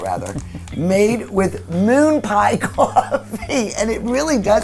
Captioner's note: laughs